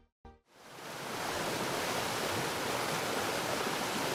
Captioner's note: waterfall rushes